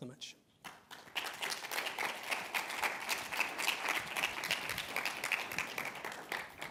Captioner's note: applause